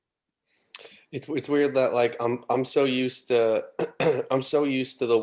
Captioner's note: clears throat